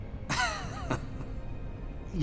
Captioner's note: chuckles